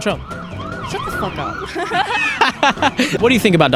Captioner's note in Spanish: Todos ríen